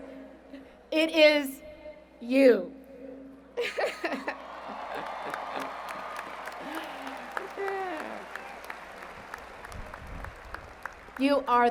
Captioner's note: cheers and Applause